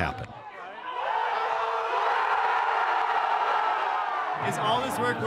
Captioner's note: crowd cheering